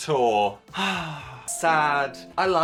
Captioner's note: Dan sighing